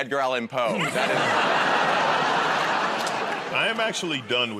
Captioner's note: laughter